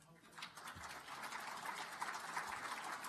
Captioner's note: applause